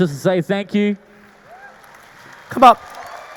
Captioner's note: audience applauding